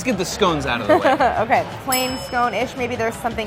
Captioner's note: laughs; bell dinging